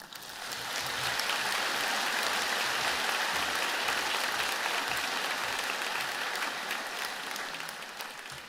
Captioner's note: applause